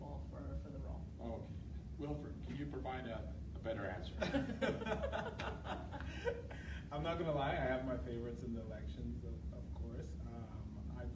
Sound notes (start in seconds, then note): 4.2 laughing